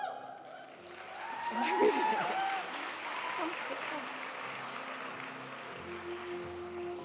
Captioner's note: audience cheering and applauding